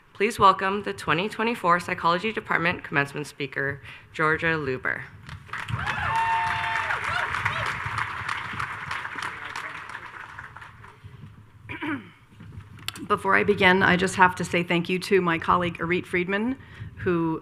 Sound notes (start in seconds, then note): 5.4 audience cheers and applauds